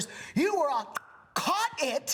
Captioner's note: clicks